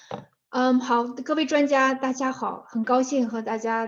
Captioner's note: speaking in Chinese